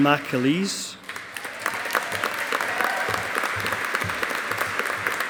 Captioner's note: audience applauding